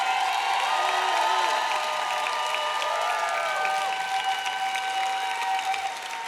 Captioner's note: audience clapping and cheering